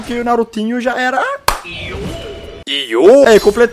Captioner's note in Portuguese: som do jogo